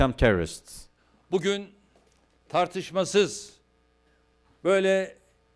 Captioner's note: non-english speech